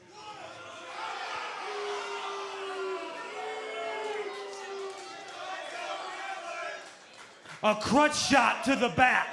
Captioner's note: crowd chatter